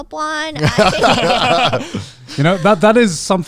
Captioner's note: everyone laughing